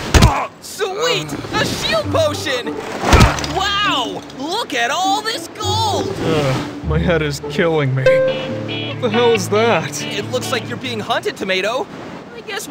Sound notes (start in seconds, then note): 1.0 Tomato grunts; 5.6 moans; 8.1 upbeat music